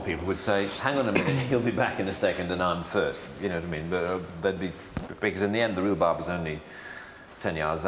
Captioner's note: burb